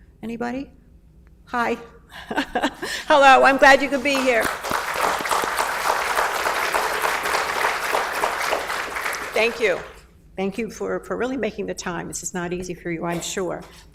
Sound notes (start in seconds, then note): 2.0 laughs; 3.6 applauds; 6.0 audience applauds